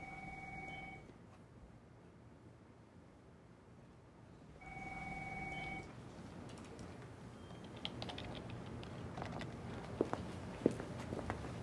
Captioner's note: phone ringing